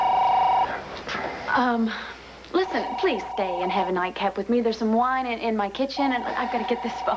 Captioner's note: telephone rings